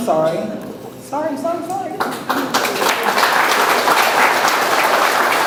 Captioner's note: audience applauds